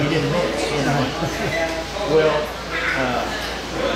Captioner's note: laughing